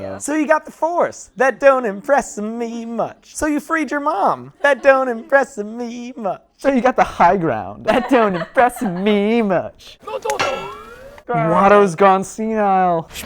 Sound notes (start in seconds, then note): 9.9 Toydarian gibberish